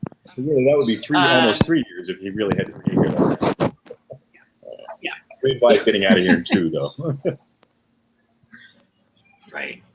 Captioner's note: technical glitch